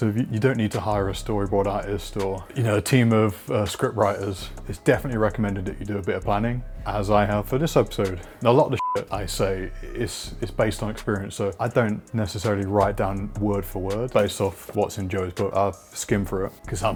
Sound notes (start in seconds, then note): 8.7 beep